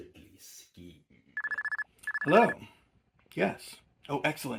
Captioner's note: phone ringing